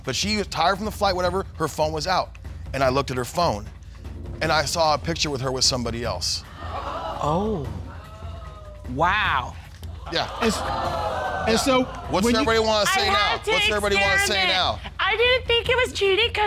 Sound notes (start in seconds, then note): 6.9 audience gasps